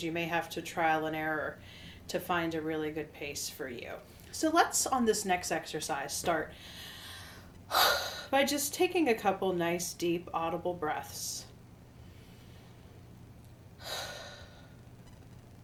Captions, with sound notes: you may have to trial and error to find a really good pace for you. So, let's on this next exercise, start (exhales) by just taking a couple nice, deep audible breaths. (deeply exhales)